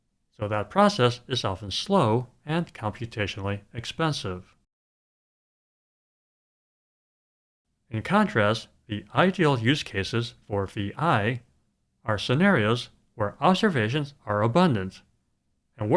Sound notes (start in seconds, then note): none